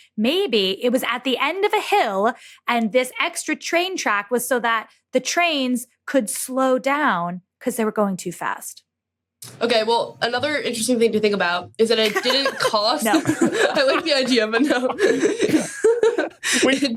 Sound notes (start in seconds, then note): 12.0 laughs; 15.0 laugh